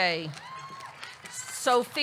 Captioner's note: audience cheering; audience clapping